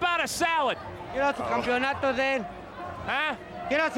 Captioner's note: speaking in Spanish